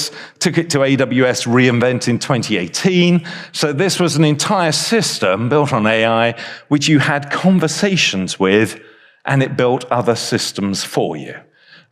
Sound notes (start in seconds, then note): none